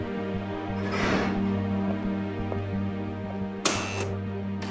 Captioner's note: door squeaking; buzzer buzzing